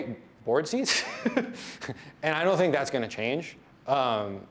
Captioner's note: laughs